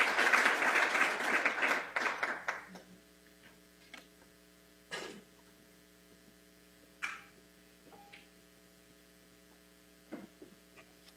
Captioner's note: applause